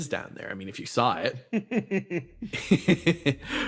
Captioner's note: laugh